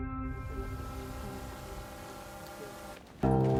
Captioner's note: drone whirring in distance